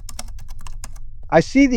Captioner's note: SFX: keyboard